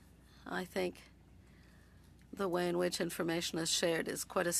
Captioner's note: speaking French